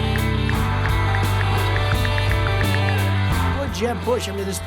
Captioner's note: ticking